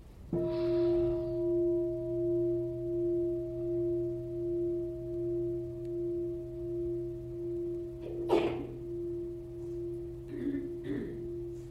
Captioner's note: bell sounds